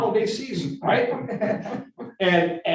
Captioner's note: group laughing